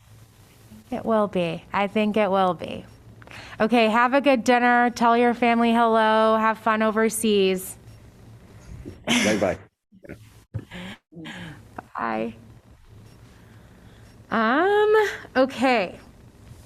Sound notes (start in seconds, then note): 9.0 laughter